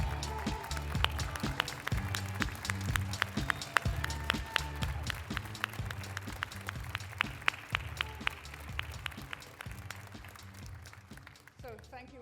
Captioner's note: applause